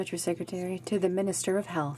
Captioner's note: speaking French